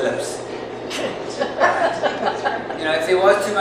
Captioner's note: people laughing